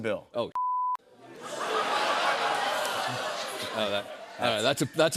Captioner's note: laughter